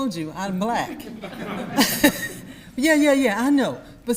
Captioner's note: audience laughs